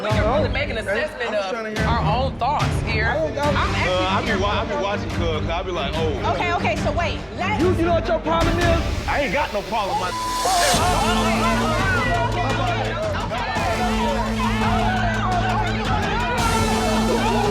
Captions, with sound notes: we can really make an assessment of our own thoughts here. I'm actually- - I be watching 'cuz, 'cause I be like, "Oh." - Okay, okay so wait. Lets- - You know what your problem is? - I ain't got no problem, my (beep)! (people exclaiming) (people yelling at once) (dramatic music)